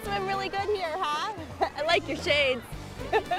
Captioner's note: laughs